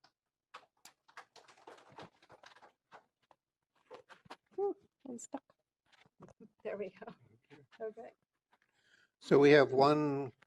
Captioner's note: applause